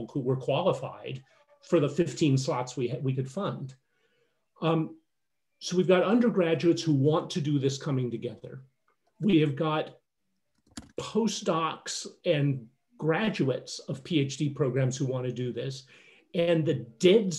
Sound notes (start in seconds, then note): none